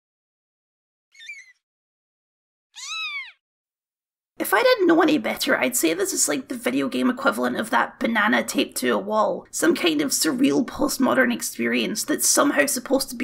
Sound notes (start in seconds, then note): 1.1 squeak; 1.1 meow